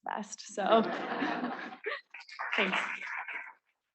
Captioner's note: students laughing; students clapping